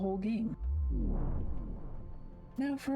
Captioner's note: vwoom